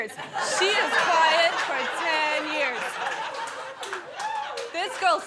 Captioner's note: guests laughing